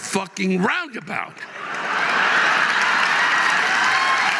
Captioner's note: audience laughing